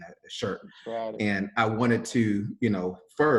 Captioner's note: man exclaiming